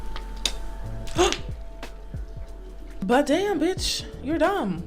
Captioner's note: gasps